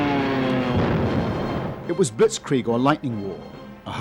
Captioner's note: bombs exploding